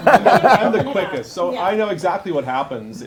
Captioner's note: laughter